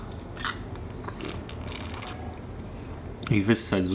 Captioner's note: slurping